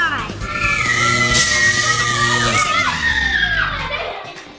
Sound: zapping, whirring down

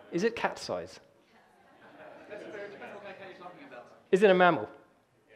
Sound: audience laughter

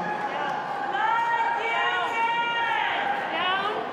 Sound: Team Canada continues cheering

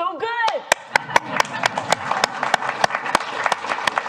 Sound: applause

